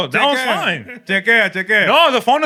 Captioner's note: non-english Speech